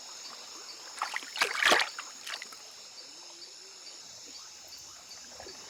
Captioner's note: water splashing